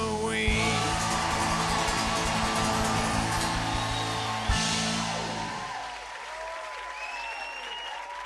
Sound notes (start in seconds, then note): 0.5 cheers and applause